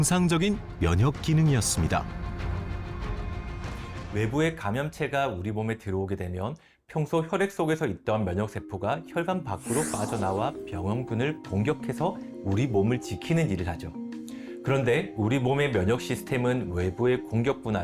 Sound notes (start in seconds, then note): 3.7 voiceover